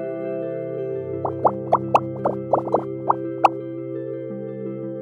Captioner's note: bubbles popping